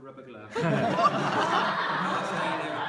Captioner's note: laughter